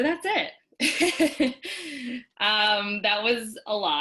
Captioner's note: laughs